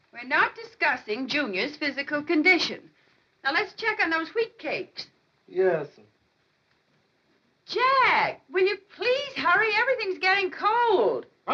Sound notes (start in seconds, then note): none